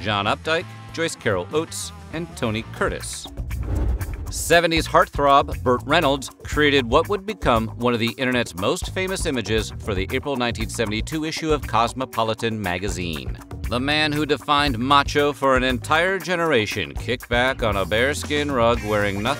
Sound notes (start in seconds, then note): none